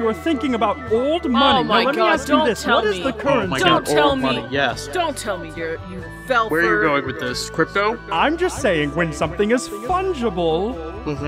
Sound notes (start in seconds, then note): none